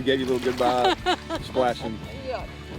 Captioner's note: laughing